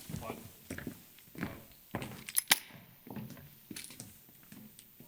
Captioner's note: feet stomp